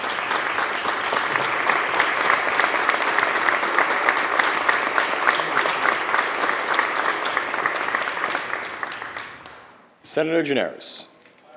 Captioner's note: applause